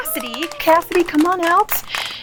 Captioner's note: clapping